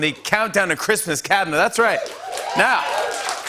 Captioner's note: cheers and applause